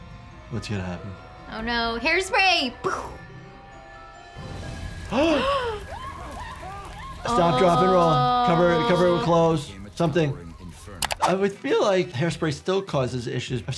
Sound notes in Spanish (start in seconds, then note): 2.5 imitando una explosión; 4.5 Ambos jadeando; 5.1 Betty gritando